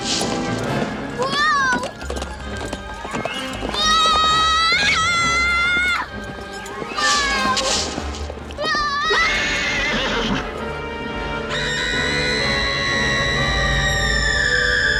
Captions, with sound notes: WHOA! [screams] WHOA! WHOA! [horse whinnying] [screaming]